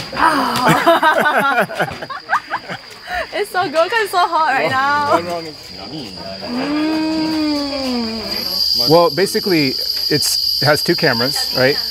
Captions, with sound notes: Ah! (people laughing) It's so good 'cause it's so hot right now. (people chattering) - Nummy! - Mm! - Well, basically, it has two cameras, right?